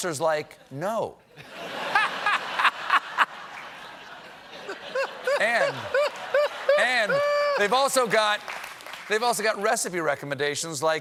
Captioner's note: laughter